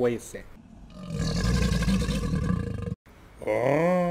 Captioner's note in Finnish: roar